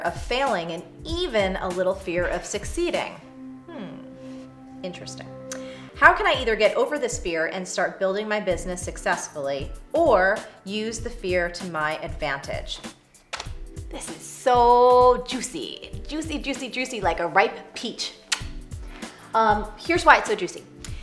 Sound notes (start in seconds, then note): 18.3 kiss: Smack